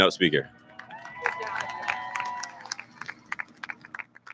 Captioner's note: audience lauds